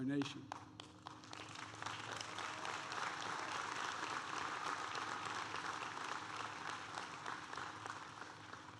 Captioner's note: applause